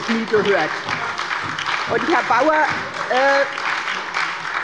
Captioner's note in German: Beifall bei der SPD und der LINKEN